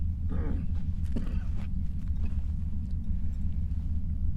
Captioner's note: Becker coughs